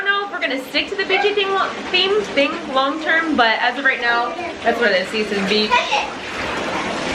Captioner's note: stumbles over words